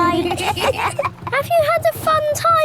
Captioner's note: kids giggling